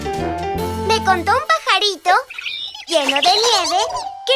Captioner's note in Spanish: Sonido de pájaro